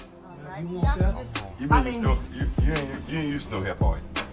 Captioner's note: overlapping chatter